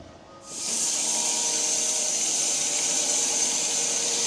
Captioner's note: planer buzzing